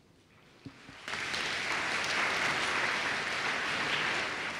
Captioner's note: applause